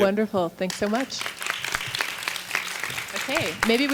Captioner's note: audience applauding